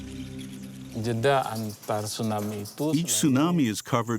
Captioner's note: speaking in foreign language